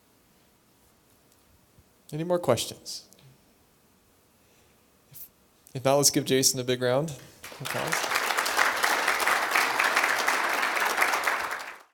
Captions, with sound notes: Any more questions? Now, let's give Jason a big round applause. [APPLAUSE]